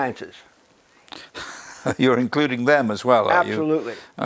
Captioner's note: laugh